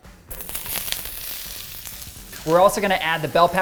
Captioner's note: onions sizzling